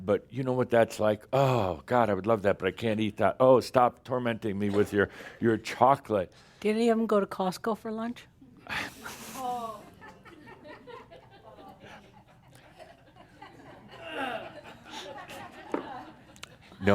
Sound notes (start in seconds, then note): 9.9 some chuckles